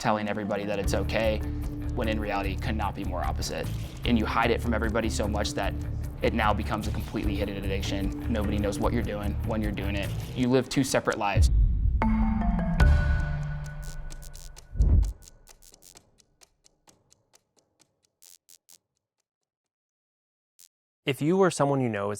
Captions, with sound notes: telling everybody that it's okay, when in reality could not be more opposite. And you hide it from everybody so much that it now becomes a completely hidden addiction. Nobody knows what you're doing, when you're doing it, you live two separate lives. [neon buzzing] If you or someone you know